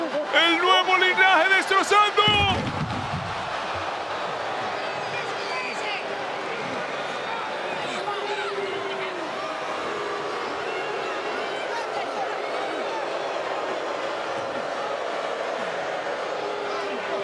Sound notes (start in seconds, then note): 2.7 applause